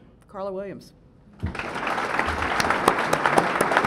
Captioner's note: applause